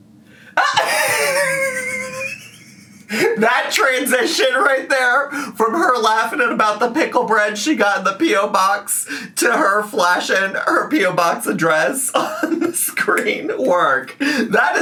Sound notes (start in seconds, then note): 0.5 laughs